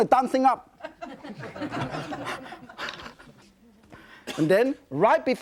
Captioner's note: audience laughing, presenter laughing